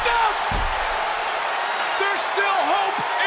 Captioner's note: crowd cheers